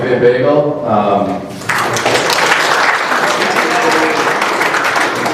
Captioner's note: applause